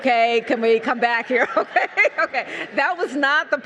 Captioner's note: laughs